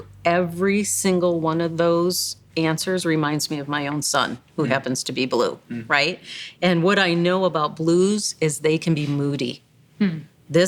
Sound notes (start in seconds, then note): none